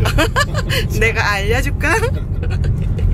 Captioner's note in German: Gelächter